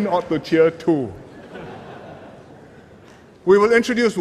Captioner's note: laughter